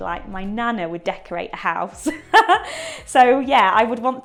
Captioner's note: laughs